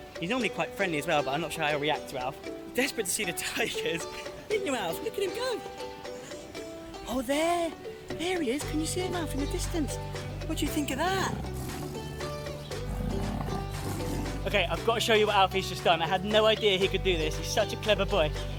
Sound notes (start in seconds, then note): 3.7 laughs; 13.0 tiger growling